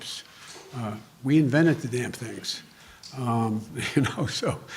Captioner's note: laughs